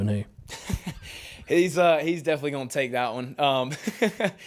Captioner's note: laughing